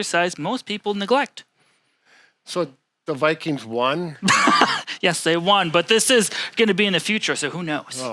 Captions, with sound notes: most people neglect. - So, the Vikings won? - (laughs) Yes, they won, but this is gonna be in the future, so who knows.